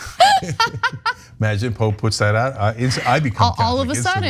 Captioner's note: laugh